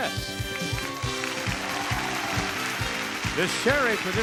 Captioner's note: audience cheering